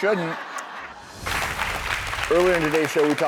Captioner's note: crowd applauding; air whooshing